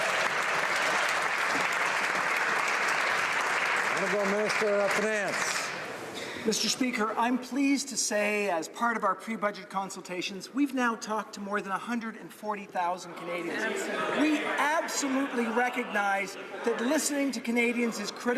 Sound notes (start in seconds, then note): 2.3 some Applause